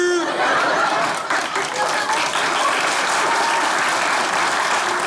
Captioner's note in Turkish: Kahkaha ve alkış sesleri